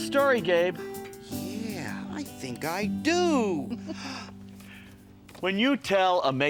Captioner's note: chuckles